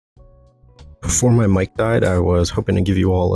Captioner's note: voiceover speaking